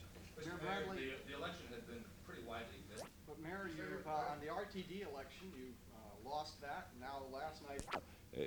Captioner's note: camera noise